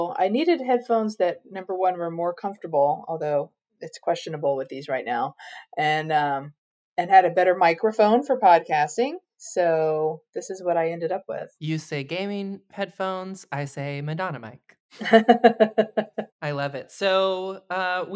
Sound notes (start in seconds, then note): 15.0 laughs